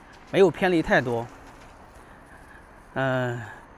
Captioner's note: 英语; 英语